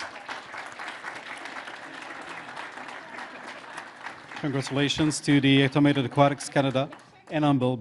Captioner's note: applause